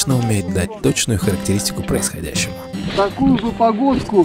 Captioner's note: talking